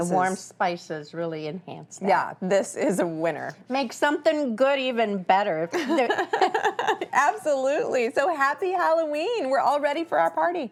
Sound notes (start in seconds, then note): 5.8 laughs